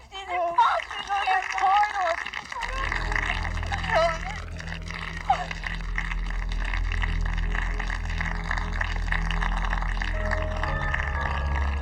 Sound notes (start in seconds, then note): 3.1 dramatic music; 4.4 audience applauding